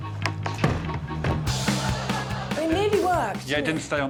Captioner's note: upbeat music; iron thudding; audience laughing